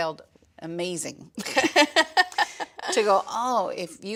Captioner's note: laughs